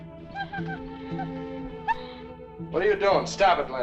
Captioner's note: pensive music continues; dog whimpers